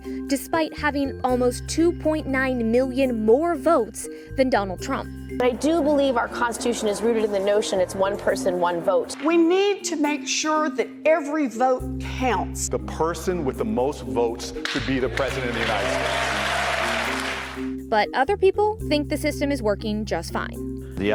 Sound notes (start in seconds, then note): 14.7 audience applauds